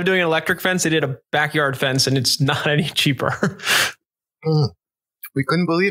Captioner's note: laughs